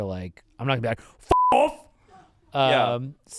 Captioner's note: beep